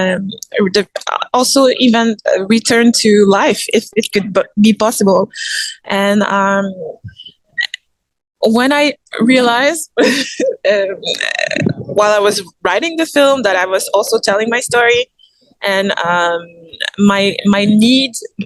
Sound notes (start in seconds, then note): 11.0 laughs